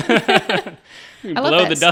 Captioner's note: all laughing